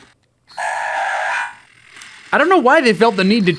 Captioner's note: electronic threatening growling noise